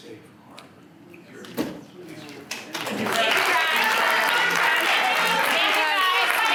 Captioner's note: applause